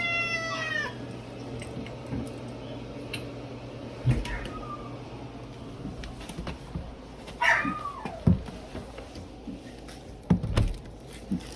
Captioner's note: Caprice continues meowing; Ella barks, howls, and whimpers; bathroom door opens, then closes